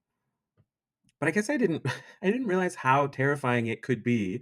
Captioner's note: chuckles